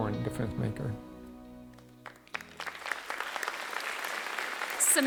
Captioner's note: applause